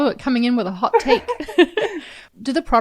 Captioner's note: both laugh